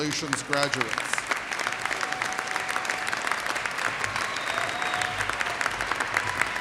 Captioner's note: audience cheers and applauds